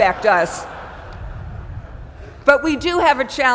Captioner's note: laugh